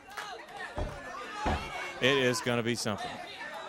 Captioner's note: crowd chatter